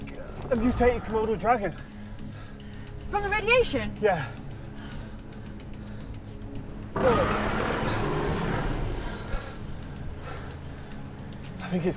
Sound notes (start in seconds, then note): 6.9 dragon growls